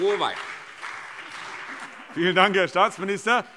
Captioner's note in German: Beifall CDU und BÜNDNIS 90/DIE GRÜNEN